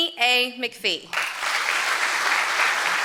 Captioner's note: applause